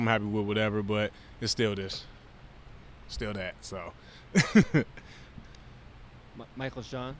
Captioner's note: chuckles